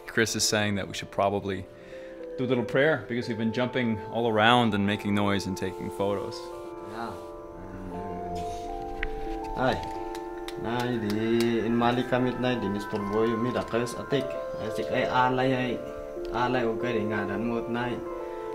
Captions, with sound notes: and Chris is saying that we should probably do a little prayer because we've been jumping all around and making noise and taking photos. - Yeah. (praying in foreign language) (ethereal music)